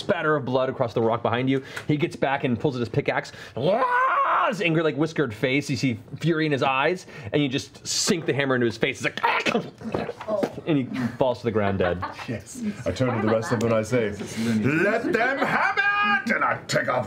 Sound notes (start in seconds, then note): 9.2 cry of pain; 9.3 gurgle